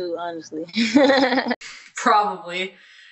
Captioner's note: laughing